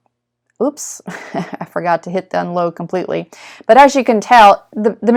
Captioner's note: laughs